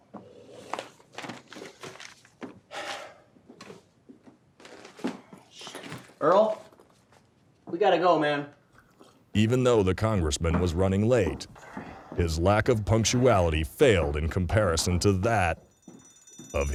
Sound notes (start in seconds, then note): 2.7 sighs; 9.5 voiceover; 15.5 alarm goes off